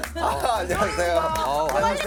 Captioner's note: bickering from the entrance